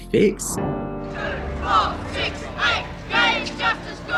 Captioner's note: chanting